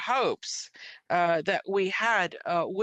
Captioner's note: speaking French